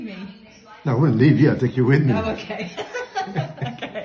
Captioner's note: laughs